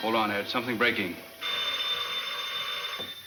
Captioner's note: phone ringing